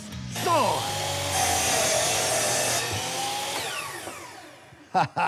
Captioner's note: whirring; laughs